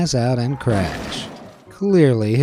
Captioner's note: car crashing